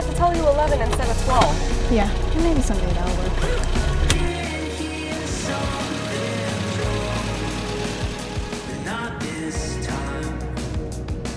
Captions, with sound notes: I'm gonna have to tell you 11 instead of 12. - Yeah, maybe some day that will work. (seatbelt clicking) (car chugging)